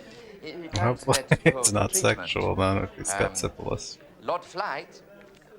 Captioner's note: chuckling